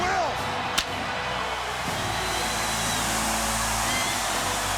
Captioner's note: fireworks hissing